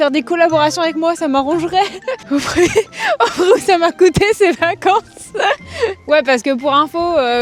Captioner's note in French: rires